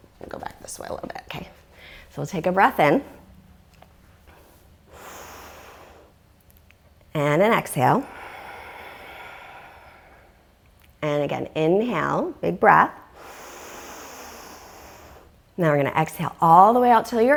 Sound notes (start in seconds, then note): 13.1 deep breathing sounds